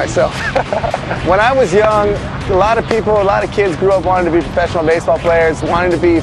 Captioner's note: laughs